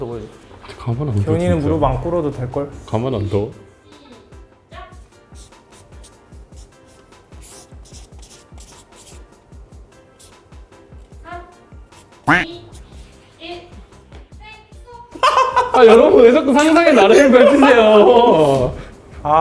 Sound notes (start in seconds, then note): 15.1 burst out laughing